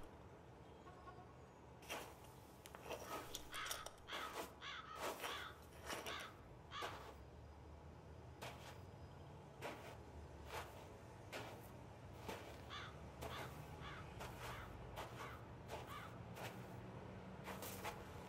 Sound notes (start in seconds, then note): 3.0 crows continue cawing